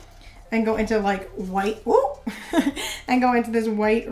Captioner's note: laughs